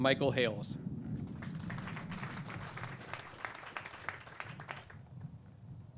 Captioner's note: clapping